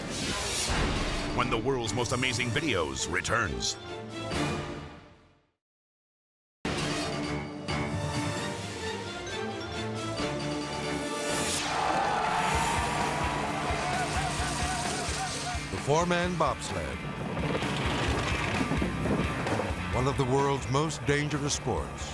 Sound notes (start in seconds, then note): 6.2 dramatic music; 11.5 people cheering